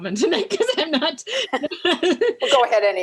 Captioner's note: laughs